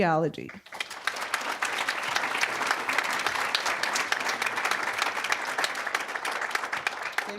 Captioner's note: applause